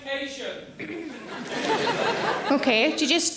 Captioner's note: audience laughing